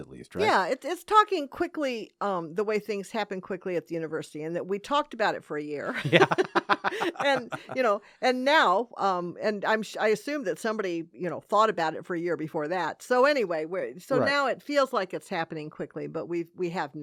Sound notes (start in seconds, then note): 5.9 laughing